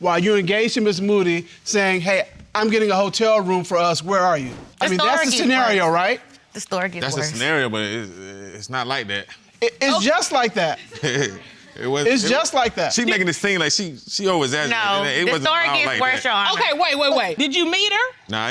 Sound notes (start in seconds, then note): 10.9 chuckles